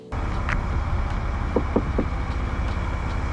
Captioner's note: knocks on window